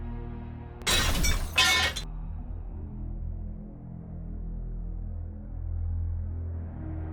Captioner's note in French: claquement métallique